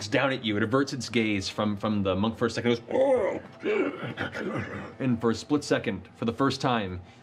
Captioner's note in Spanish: gruñido confundido